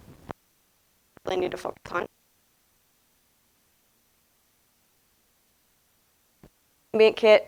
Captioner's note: audio cuts out for a short time